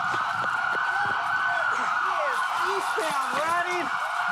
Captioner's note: speaking into radio